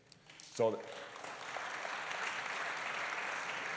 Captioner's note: applause